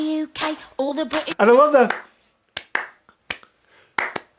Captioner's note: clapping